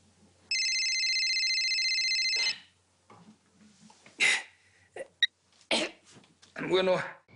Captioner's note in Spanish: Sigue sonando el celular